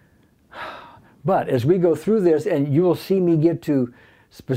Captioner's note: sigh